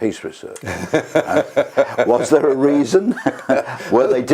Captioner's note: laugh